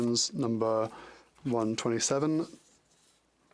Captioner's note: speaking French